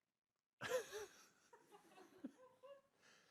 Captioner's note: chuckles